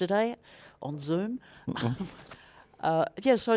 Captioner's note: laughs